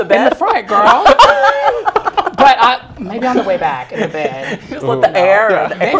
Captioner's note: laugh